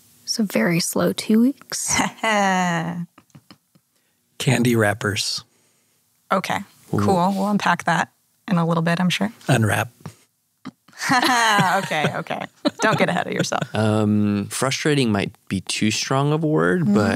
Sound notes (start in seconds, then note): 1.8 laughs